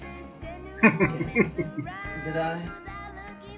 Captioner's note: laughing